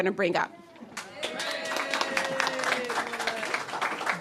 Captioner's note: cheers and applause